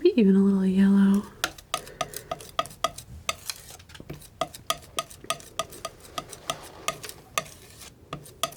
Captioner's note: sculpture sounds